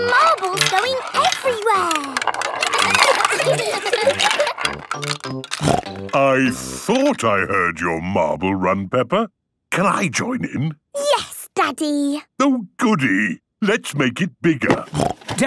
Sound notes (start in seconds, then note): 3.1 laughter; 3.9 snorting; 14.9 snorting